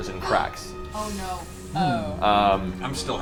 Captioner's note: gasps